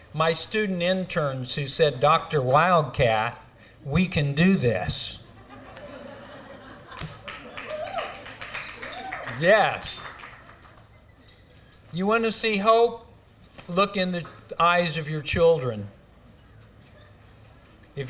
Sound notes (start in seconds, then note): 5.2 laughter; 6.9 applause